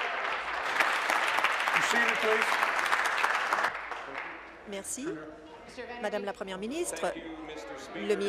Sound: applause

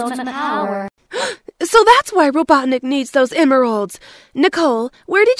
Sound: gasp!

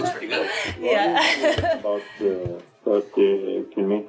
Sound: laughs

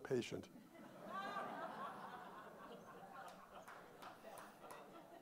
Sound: audience laughing

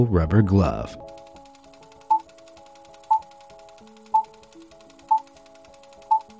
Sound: movie reel spinning and beeps

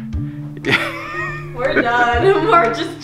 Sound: laughing

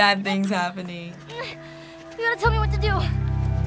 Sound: Ellie grunts; somber music

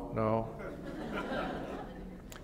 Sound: laughter

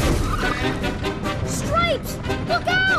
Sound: crashing

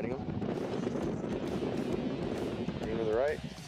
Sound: wind rumbles

